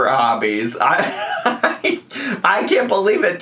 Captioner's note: laughs